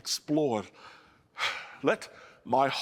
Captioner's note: sighs